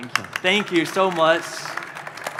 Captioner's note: applause